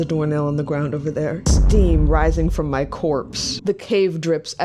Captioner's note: boom